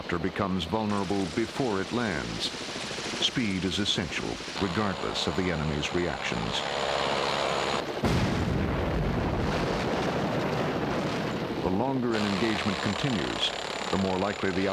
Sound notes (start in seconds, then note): 8.0 explosion